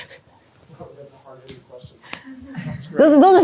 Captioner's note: indistinct chatter